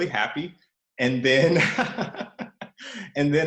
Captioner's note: laughs